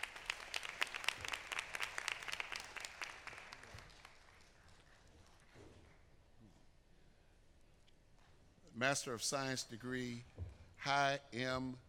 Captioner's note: applause